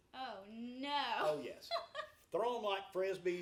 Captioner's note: laughs